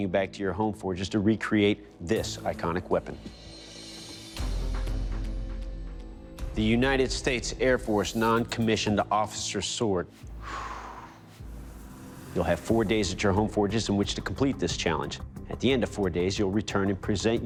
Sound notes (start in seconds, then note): 10.4 sigh